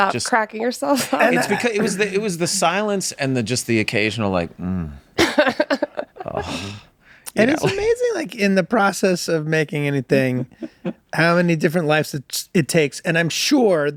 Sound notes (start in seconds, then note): 4.4 moan